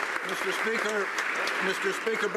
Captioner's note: applause